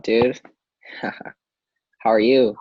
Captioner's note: chuckles